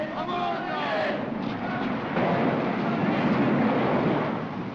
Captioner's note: wind howls & thunder roars